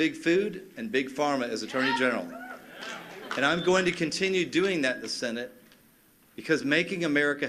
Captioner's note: cheers and applause